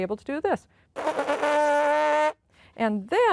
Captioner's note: buzzing lips